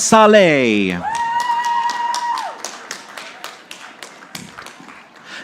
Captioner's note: audience applauding